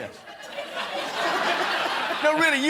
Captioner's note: laughter